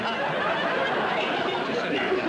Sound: laughter

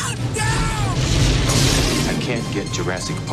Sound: screams

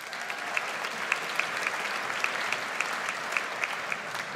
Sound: audience applauds

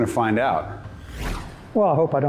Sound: whooshing

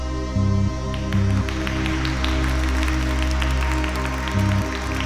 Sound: choir applauding

